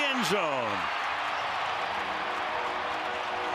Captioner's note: crowd cheering